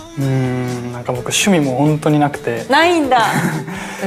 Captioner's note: laughs